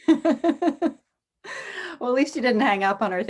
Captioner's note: laughs